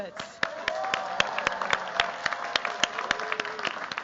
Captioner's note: cheers, applause